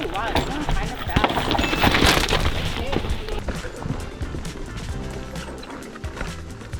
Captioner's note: wheels whooshing; lively music